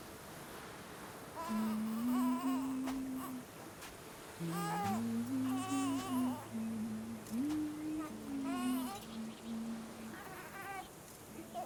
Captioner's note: humming